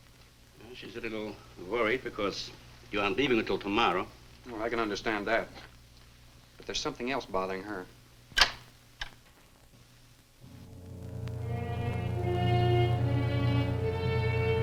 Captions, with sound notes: - She's a little worried because you aren't leaving until tomorrow. - Well, I can understand that. But there's something else bothering her. (door closes) (ominous orchestral music)